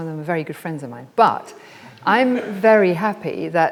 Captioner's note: audience laughs